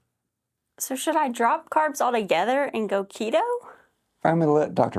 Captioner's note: laugh